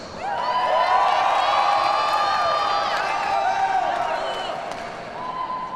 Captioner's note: audience cheers and applauds